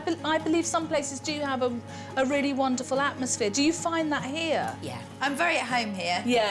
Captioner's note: none